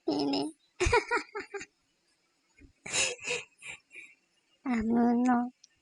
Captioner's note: laugh